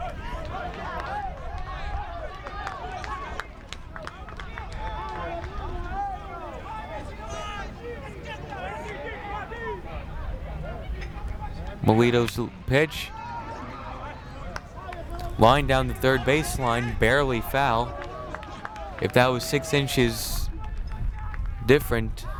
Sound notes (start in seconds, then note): 0.2 players yelling in foreign language; 13.8 bat cracks